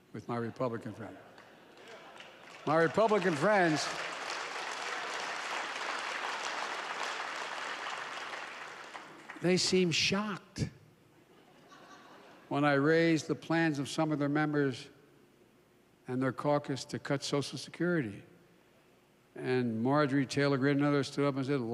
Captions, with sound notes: with my Republican friends. (Laughter.) (Applause.) My Republicans friends, they seemed shocked -- (laughter) -- when I raised the plans of some of their members and their caucus to cut Social Security. And Marjorie Taylor Greene and others stood up and said,